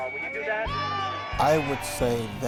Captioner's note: audience cheers